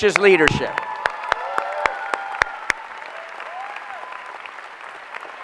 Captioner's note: applause